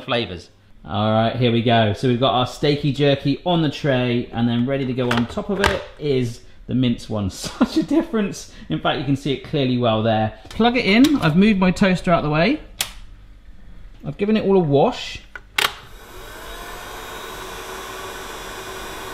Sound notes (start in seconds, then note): 7.4 laughs; 15.2 button clicks; 15.8 machine fan whirring